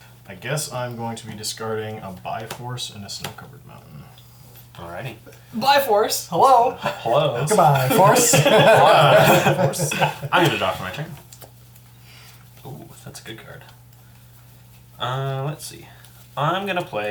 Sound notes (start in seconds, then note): 9.3 all laugh